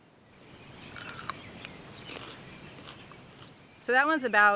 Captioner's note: crunchy chewing